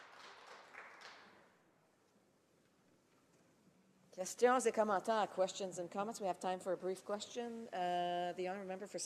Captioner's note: some Applause